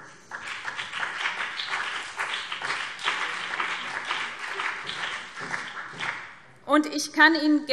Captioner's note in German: Beifall BÜNDNIS 90/DIE GRÜNEN und CDU